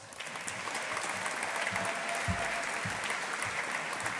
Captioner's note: audience applauding